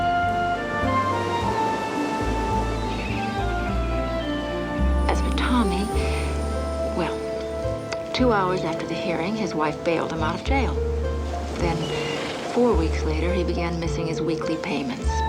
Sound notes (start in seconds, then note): none